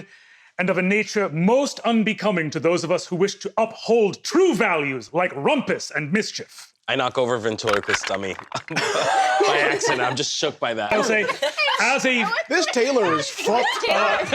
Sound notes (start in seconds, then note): 10.9 laughs